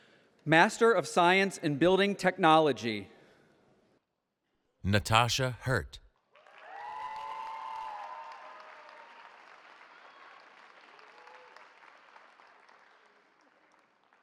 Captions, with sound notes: Master of Science in Building Technology. Natasha Hirt. [CHEERING]